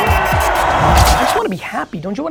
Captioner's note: upbeat music; crowd cheers